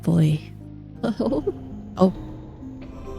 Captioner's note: laughs